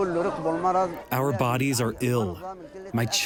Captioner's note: through translator